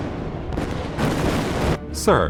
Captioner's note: explosion; muffled explosion